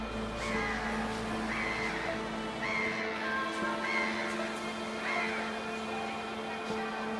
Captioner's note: birds crowing